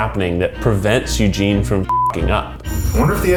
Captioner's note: beep